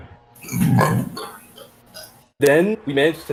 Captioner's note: burp